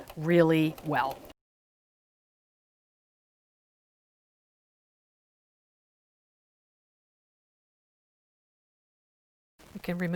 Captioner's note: no Sound Present